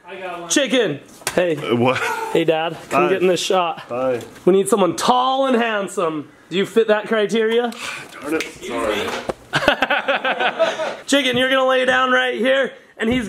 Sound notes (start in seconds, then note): 8.1 fingers snap; 9.5 laughs